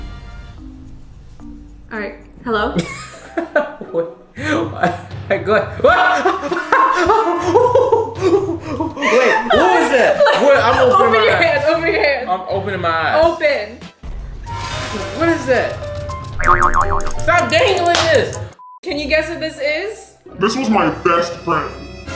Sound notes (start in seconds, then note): 0.1 triumphant music; 5.6 laughs; 5.7 giggling; 6.4 shouts; 11.0 laughs; 13.0 dramatic music; 16.4 cartoonish boinging; 21.9 dramatic music